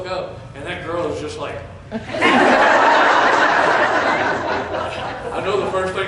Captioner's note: laughter